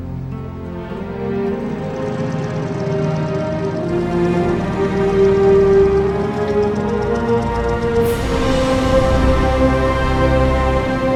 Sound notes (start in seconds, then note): 1.6 engine rumbling; 4.0 soft dramatic music; 7.3 waves crashing